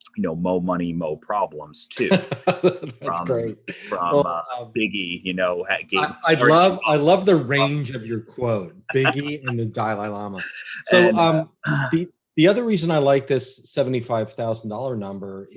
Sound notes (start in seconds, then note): 2.4 laughs; 8.8 laughs